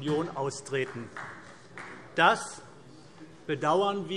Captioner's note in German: Vereinzelter Beifall AfD